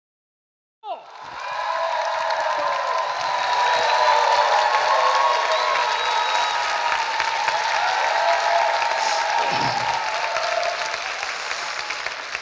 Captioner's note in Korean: 환호와 박수